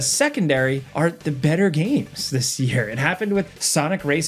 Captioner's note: laughing